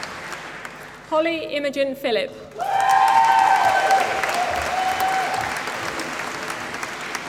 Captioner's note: applause